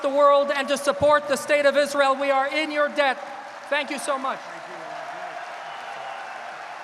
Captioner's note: applause